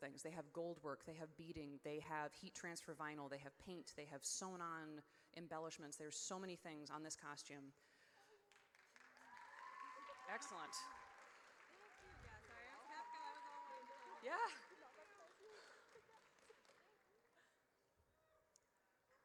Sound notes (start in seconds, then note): 9.0 audience cheers